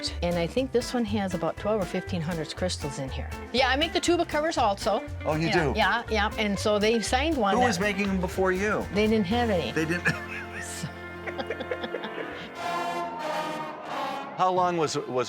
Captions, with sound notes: And I think this one has about 12 or 1500 crystals in here. Yeah, I make the tuba covers also. - Oh you do. - Yeah, yeah. And so they signed one-- - Who was making them before you? - They didn't have any. - They didn't. (both laughing) (marching band music)